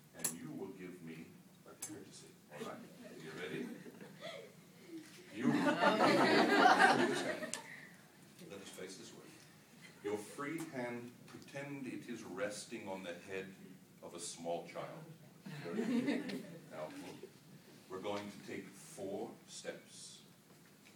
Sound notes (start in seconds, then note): 5.4 laughter